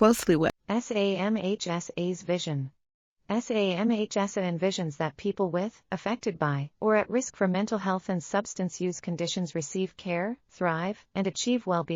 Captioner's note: audio Description being read